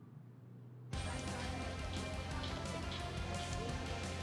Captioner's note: people chattering; upbeat lively music